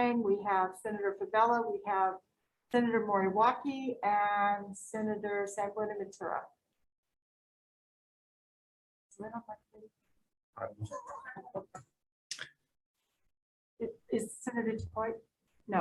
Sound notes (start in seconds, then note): 10.8 laughs